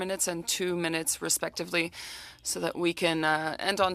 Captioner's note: speaking French